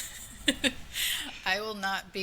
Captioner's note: laughing